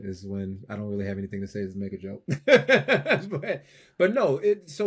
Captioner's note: laughs